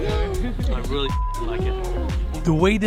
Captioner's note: beep